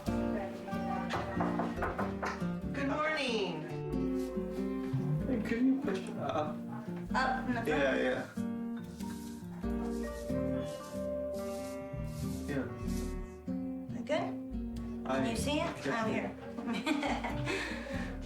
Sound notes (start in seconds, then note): 1.1 knocking; 16.8 nurse chuckling